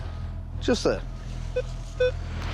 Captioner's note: beeping